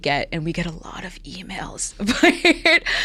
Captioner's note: laughs